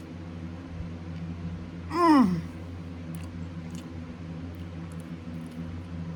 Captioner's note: pleasantly groans